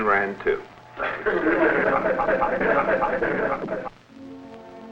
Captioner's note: laughter